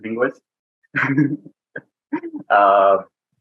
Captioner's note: chuckles